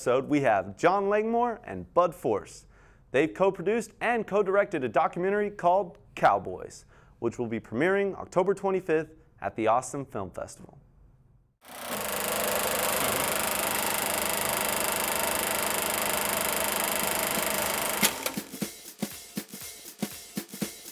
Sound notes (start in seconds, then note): 11.6 film reel flutters; 18.0 jazz music